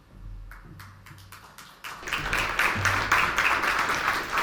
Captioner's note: audience applauds